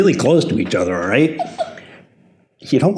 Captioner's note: laughs